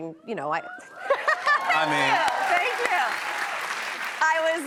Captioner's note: cheers and applause